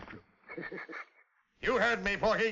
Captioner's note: laughs